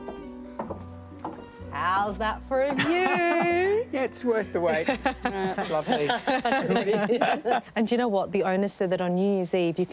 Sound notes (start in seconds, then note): 2.8 chuckles; 4.8 all laughing